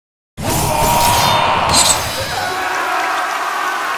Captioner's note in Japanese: 叫び声